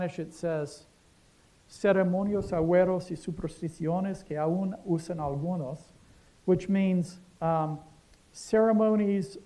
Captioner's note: speaking spanish